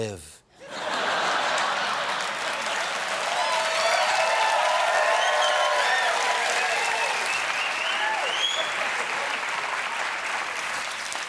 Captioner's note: laughter; cheers and applause